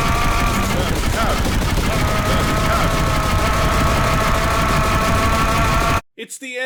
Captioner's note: scream-ception